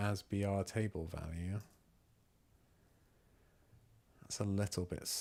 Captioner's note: silence